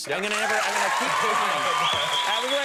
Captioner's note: audience cheering